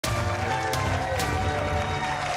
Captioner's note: applause